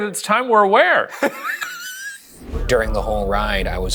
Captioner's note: laughs